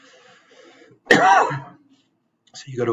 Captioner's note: coughs